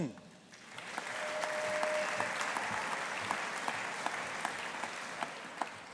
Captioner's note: audience applauding